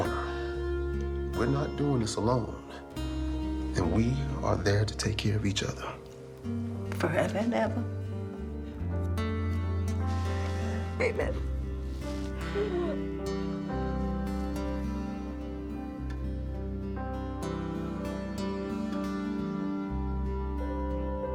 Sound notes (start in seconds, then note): 12.1 slow music; 12.3 Ernestine crying softly